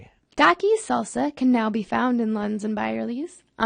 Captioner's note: voiceover